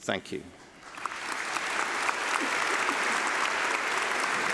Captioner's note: applause